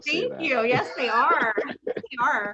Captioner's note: laughing